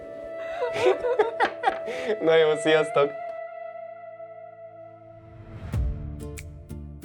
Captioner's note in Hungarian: nevetés